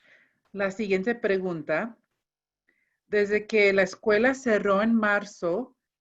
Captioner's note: speaking in foreign language